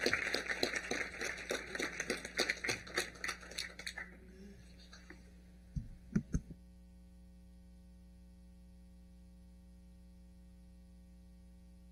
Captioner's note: applause